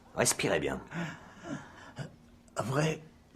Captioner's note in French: Longue inspiration